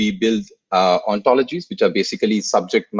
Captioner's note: laughs